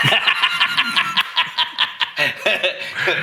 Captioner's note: laughing